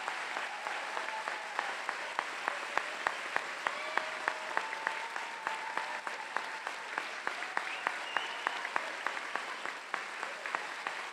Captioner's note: cheers and Applause